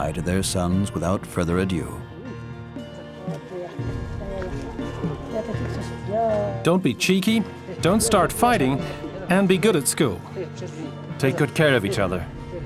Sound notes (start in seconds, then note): 2.8 speaking foreign language; 12.4 dramatic music